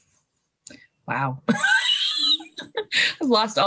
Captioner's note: laughs